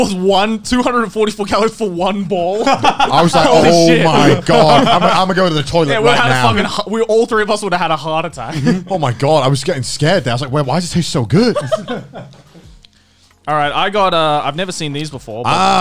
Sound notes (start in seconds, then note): 2.6 laughs